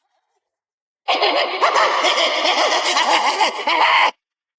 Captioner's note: cackling; laughter echoing